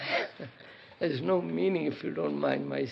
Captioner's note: laughs